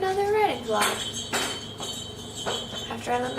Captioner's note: bell rings aggressively